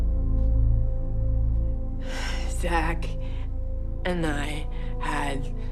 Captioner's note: sighs